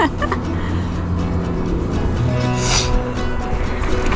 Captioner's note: laughter